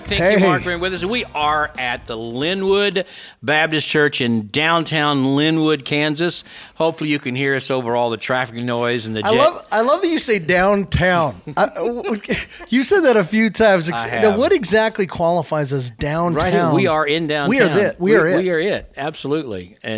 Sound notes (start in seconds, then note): 11.4 laughs